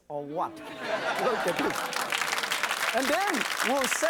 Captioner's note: audience oohs and claps